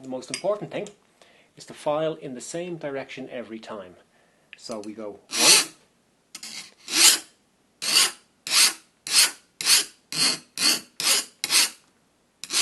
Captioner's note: filing noises